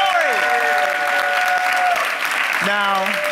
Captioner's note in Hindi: वाहवाही